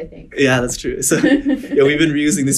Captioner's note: laughing